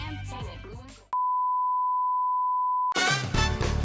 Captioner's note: beeping; upbeat music